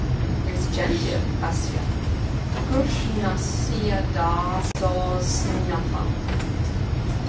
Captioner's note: non-english